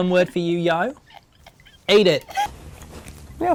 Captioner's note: laughs